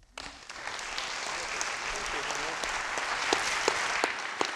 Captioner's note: students applauding